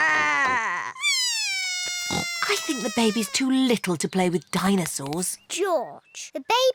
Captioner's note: bawls